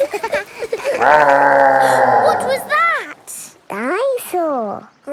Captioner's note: laughing; gasps; growling